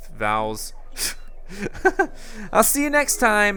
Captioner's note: laughing